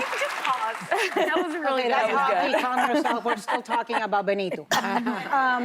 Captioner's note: applause